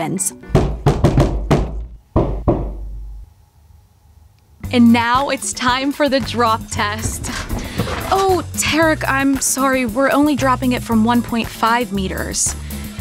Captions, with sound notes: [knock, knock, knock, knock, knock] [knock, knock from somewhere] And now it’s time for the drop test! Oh Tarek, I'm sorry… we're only dropping it from 1.5 meters.